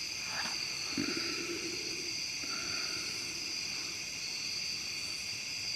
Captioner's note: breathing heavily